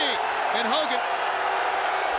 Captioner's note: audience cheers